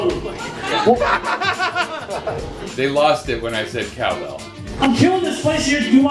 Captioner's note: laughter